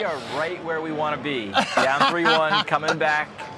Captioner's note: laughs